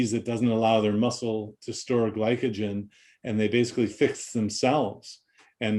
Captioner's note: none